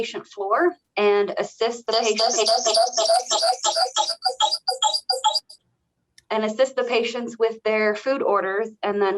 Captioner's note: echoing